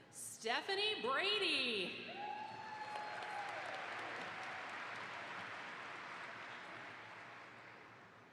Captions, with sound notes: - Stephanie Brady. (audience applauds)